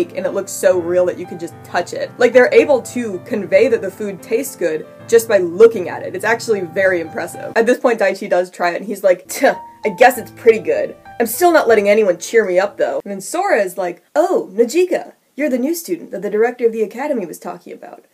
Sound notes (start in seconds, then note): 9.7 scoff